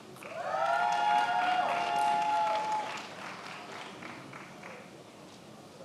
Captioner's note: attendees applauding